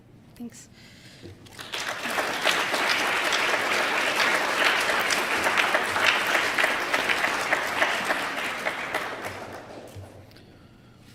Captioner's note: applause